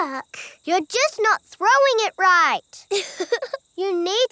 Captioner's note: chuckles